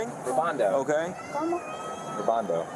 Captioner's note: speak in Foreign language